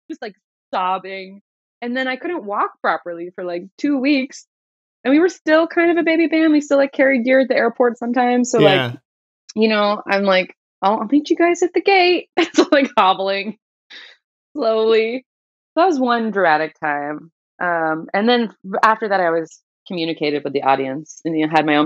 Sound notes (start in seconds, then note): 13.2 laughter